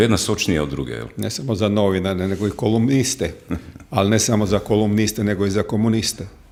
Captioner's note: coughs